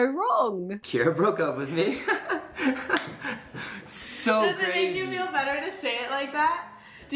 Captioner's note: laughs